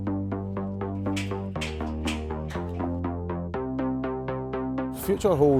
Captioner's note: rotating doors creak